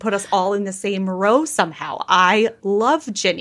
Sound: laughing

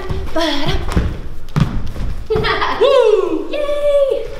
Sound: laughs

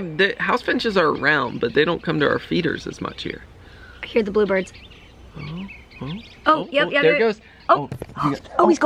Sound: birds chirping

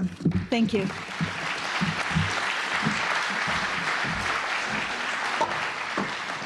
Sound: audience applauding

